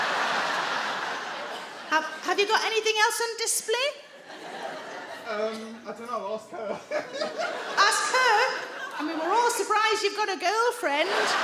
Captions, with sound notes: Have you got anything else on display? Um, I dunno, ask her. [HE LAUGHS] Ask her? I mean, we're all surprised you've got a girlfriend.